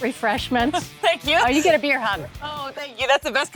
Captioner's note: chuckles